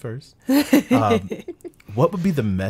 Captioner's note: laughing